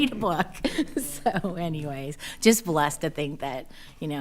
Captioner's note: laughing